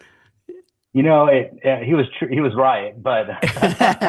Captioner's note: laughter